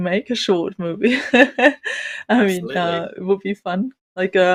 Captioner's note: laughs